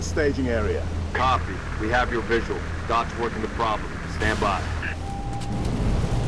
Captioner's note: radio